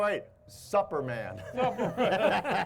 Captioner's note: all laughing; chuckles